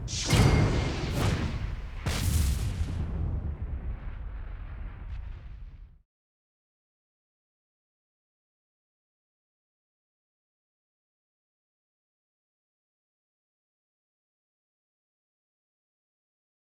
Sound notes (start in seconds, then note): 3.4 whooshing sounds